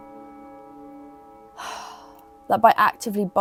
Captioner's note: sighs